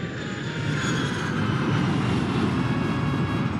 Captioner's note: sound of jet landing begins